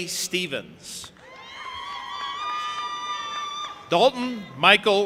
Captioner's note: audience applauding and cheering